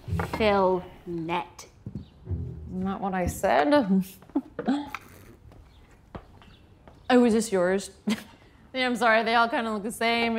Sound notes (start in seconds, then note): 4.2 laughs